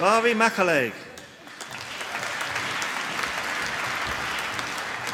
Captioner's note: applause